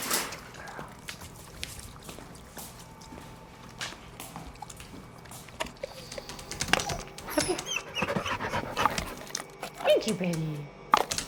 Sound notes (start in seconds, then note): 8.3 dog panting